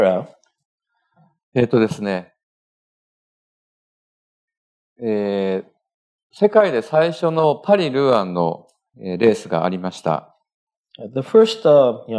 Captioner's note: speaking japanese